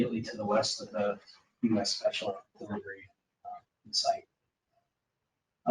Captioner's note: speaking faintly